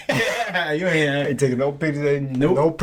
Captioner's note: laughing